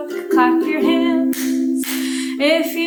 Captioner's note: hands clapping